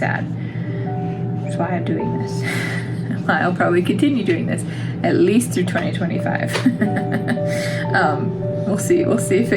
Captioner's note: laugh